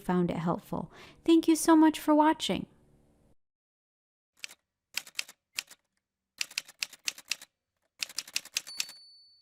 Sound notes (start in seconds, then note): 4.4 typewriter sounds